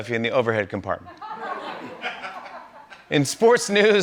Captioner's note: laughter